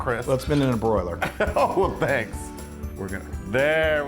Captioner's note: laugh